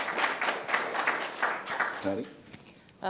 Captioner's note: applause